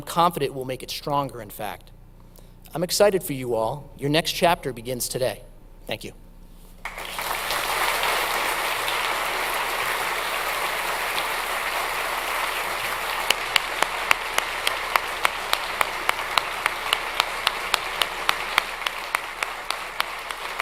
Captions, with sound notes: I'm confident it will make it stronger, in fact. I'm excited for you all. Your next chapter begins today. Thank you. (audience applauds)